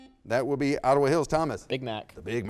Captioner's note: buzzer beeps